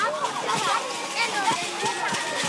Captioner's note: fire crackling